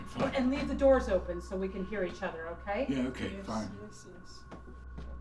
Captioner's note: none